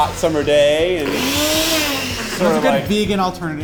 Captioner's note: blender running